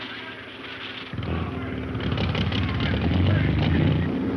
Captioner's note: group chattering; speedboat engine revving